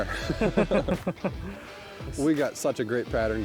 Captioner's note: laughing